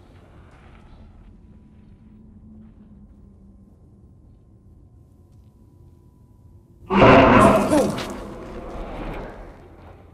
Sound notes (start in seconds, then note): 6.8 ghost howls